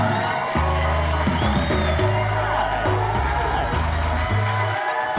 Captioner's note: audience cheering